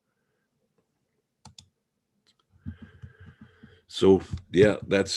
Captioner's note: mouse clicking